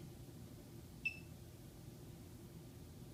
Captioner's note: device beeps